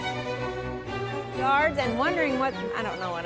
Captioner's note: laughing